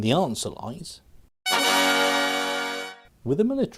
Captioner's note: sfx:taadaa!